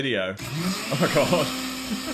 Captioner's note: blender buzzing